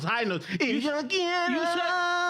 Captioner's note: speaking Spanish